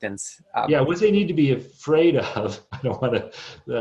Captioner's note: chuckles